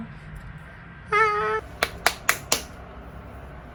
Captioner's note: applause applause